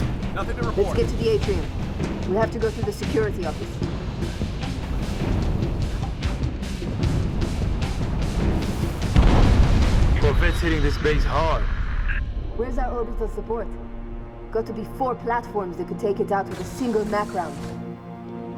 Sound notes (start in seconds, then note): 8.5 explosion; 10.1 radio